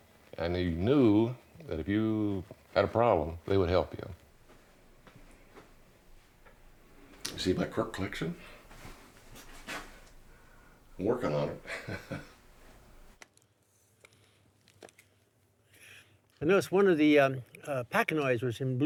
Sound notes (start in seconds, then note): 11.1 laughs